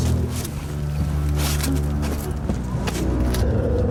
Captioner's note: eerie growling